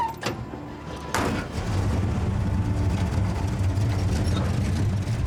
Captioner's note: engine starts